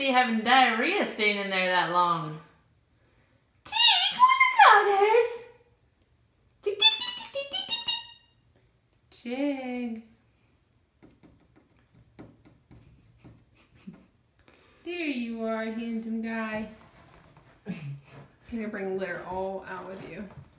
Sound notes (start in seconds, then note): 3.8 high pitch chitters; 16.5 chuckles